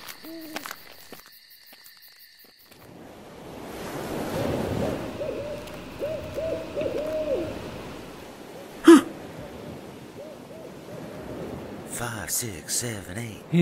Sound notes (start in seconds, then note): 0.0 owl hooting, crickets chirping; 8.8 gasps